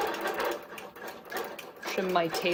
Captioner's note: machine whirring